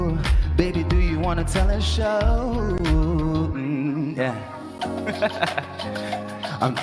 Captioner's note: laughs